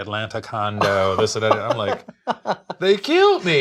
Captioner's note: laughs